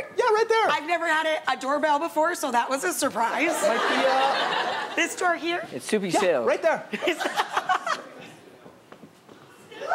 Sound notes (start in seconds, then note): 3.5 audience laughs